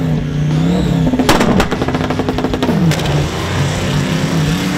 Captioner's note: engine sputtering